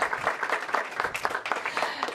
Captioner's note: applause